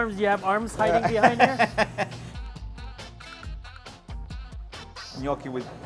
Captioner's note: laughs